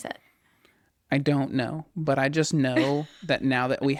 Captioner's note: laughs